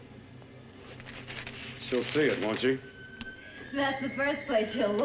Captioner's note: paper rustles